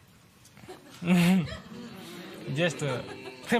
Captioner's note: chuckles